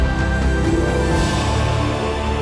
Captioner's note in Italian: Applauso